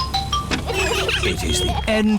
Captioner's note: horns honking